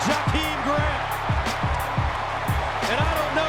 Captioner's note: cheering